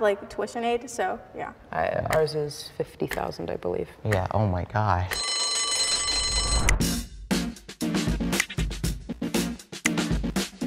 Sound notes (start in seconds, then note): 4.1 clock ticking; 5.1 bell rings; 6.5 upbeat music